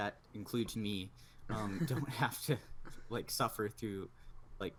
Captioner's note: laughs